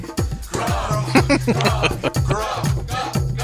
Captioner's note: laughing